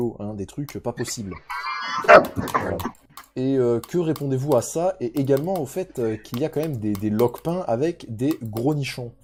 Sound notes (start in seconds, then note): 1.2 laughter